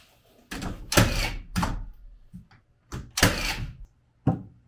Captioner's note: machine drilling